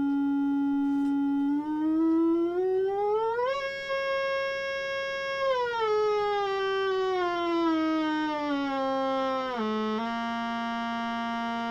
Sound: drone changes tone quality

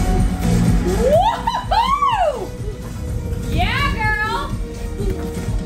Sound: cheering

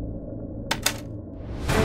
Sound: suspenseful music plays; door closes

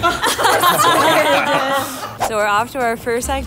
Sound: laughing

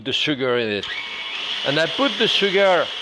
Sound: machine whirring

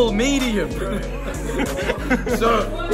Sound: laughter

